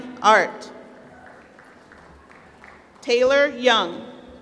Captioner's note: applause